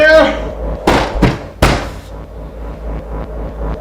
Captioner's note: banging on door